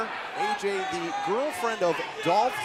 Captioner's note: crowd chatter